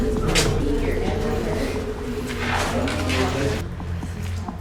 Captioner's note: chatter